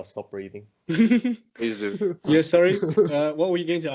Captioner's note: amused noises